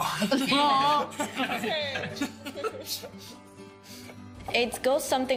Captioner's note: laughing